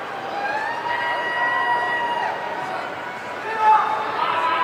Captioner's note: audience cheering